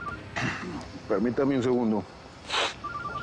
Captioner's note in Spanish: Suena el celular